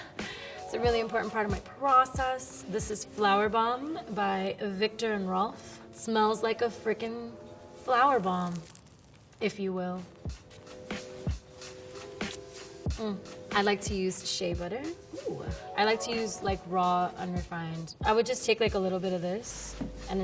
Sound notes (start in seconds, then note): 10.3 sprays perfume